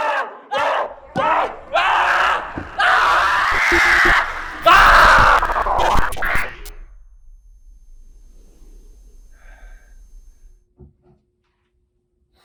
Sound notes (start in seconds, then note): 3.0 Greg screaming; 5.3 static flipping